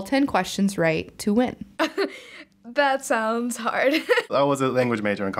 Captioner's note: laughing